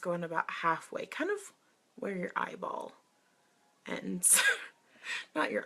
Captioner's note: laughs